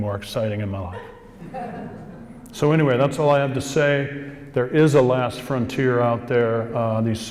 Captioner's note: more laughing